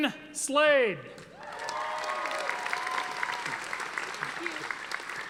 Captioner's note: audience applauding